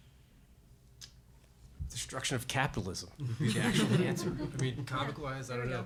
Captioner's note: laughter